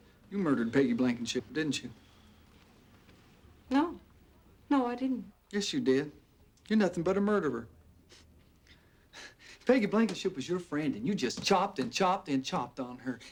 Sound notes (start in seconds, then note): none